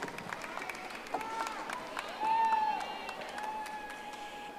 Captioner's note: audience applauding